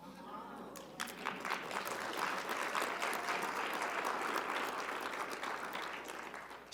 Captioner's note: audience applauding; audience cheering